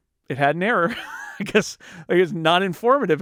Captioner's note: laughing